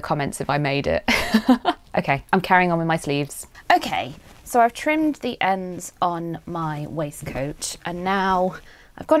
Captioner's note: laughs